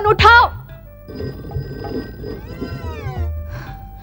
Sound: phone ringing

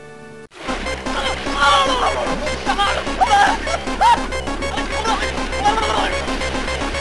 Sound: screams

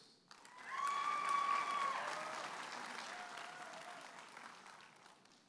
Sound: audience applauding and cheering

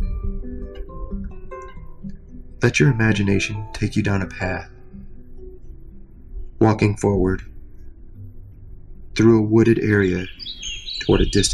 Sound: birdsong

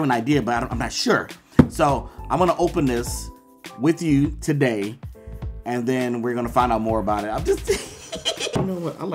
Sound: laughter

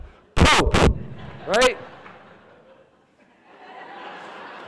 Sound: laughing

